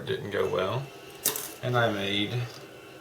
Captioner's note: clink of metal